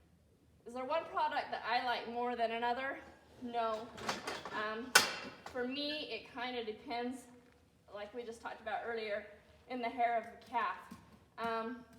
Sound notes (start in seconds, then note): none